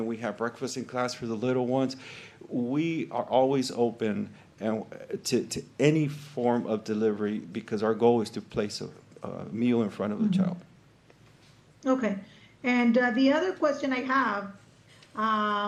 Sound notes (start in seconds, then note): none